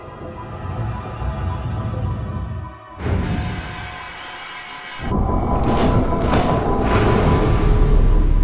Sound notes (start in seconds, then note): 2.7 metal clanging